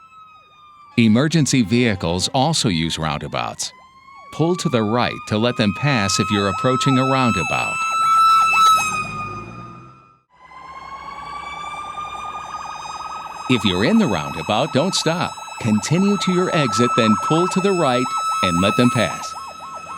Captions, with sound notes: Emergency vehicles also use roundabouts. Pull to the right to let them pass if you are approaching a roundabout. [Sirens] If you're in the roundabout, don't stop, continue to your exit, and pull to the right and let them pass.